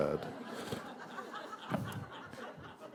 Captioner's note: laughter